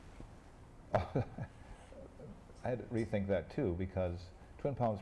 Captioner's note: laughs